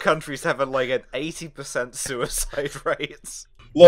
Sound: laughter

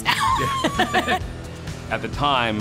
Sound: laughing

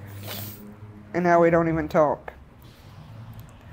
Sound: sniffling

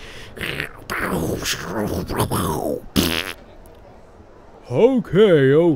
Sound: face noise

